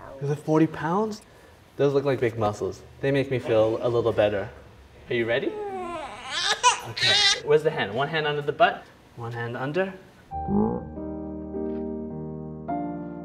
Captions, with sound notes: - You can lift 40 pounds? Those look like big muscles. They make me feel a little better. Are you ready? (baby crying) Where's the hand? One hand under the butt. One hand under. (piano music)